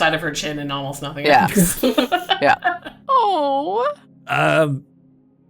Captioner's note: coos